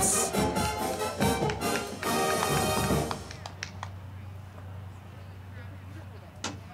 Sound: band music; crowd clapping

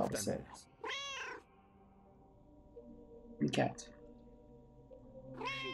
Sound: Hodge meows

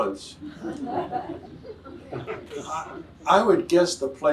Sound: audience laughs

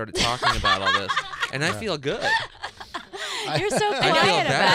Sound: laughing

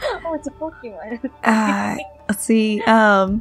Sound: laughter

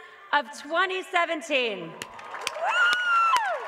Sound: applause

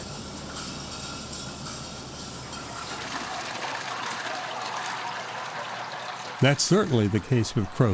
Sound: machine noise; wine pouring from vat

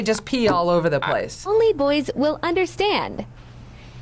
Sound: voice-over

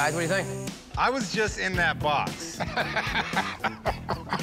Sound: laughs

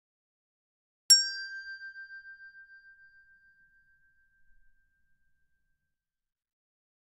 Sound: sound hand bell

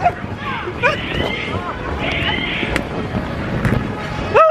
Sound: grunting

